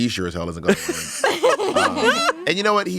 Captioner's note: everyone laughs